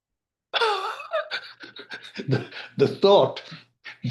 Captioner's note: laughing